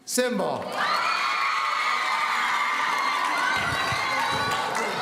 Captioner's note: audience cheering